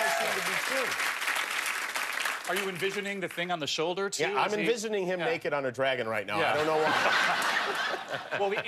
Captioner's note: laughter and applause